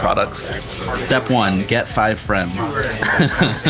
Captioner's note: chuckles